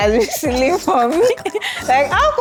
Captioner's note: laughs